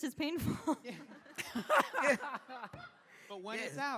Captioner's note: laughter